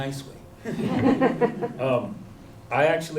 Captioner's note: chuckles